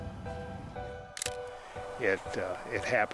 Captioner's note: camera snapping